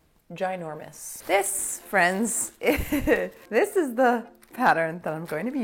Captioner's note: laughing